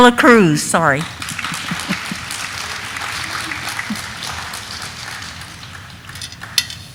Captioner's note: audience applauding; chuckles